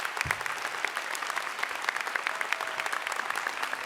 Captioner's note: applause